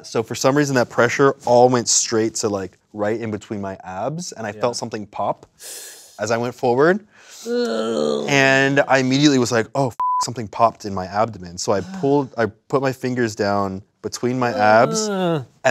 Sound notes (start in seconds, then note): 7.4 groans; 10.0 beep